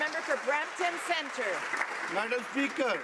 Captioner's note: some Applause